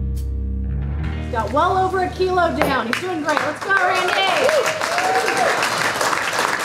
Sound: crowd clapping

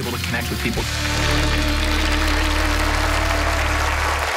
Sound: applause

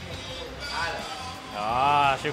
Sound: speaking in foreign language

